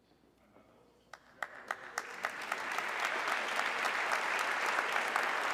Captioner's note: audience clapping